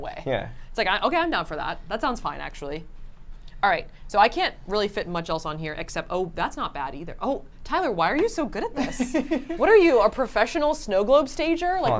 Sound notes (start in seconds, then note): 8.7 laughs